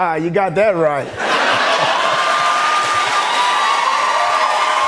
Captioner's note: laughter and applause